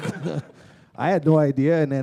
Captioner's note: chuckle